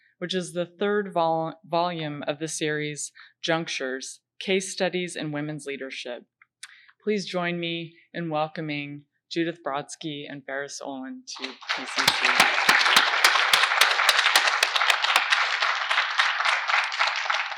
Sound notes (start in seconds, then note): 11.9 claps; 13.6 audience applauding